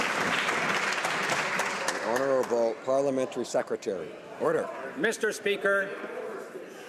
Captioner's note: some Applause